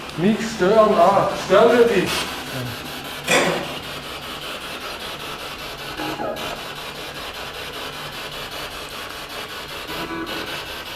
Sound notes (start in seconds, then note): 3.3 radio noise from the spirit box